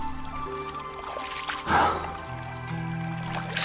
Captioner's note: sighs